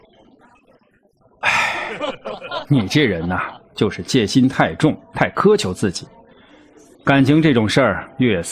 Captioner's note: sigh